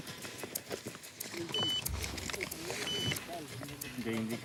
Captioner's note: Spanish language; machine beeping